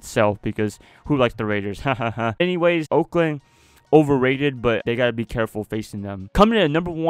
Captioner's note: hahaha